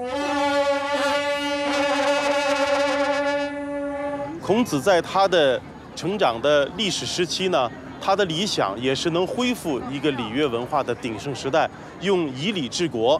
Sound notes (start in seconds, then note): 0.0 trumpets bellowing; 4.4 speaking Chinese